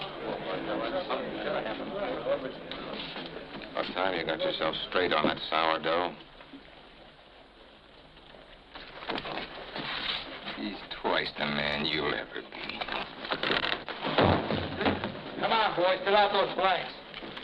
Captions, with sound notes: About time you got yourself straight on that sourdough. He's twice the man you'll ever be. [thud] Come on, boys, fill out those blanks.